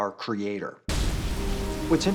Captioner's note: thunder and rain